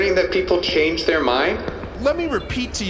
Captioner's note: none